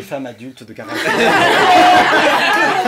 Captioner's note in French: rires